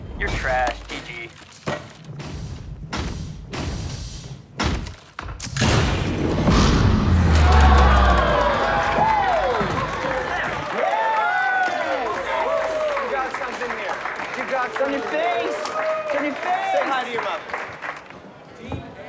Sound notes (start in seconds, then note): 1.6 stomping; 7.4 all cheering